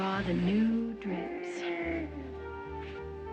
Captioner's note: groaning